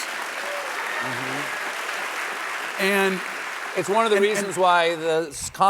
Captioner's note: applause